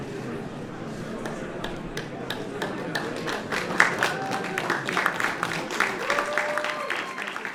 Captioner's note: applause